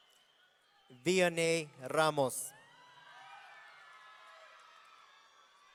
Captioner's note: audience cheering